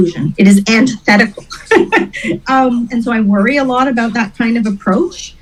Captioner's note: laughs